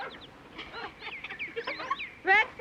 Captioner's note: jack barking, laughter